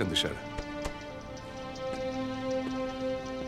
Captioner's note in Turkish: El vurma sesleri